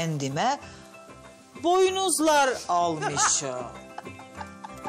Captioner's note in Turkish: Gülüyor